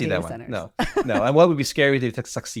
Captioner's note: laughs